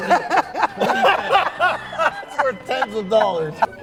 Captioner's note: laugh